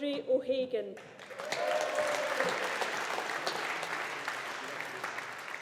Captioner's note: audience applauding